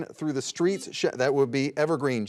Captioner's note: buzzer dings